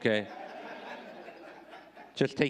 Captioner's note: audience laughing